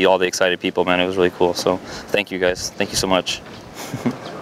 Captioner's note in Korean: 웃음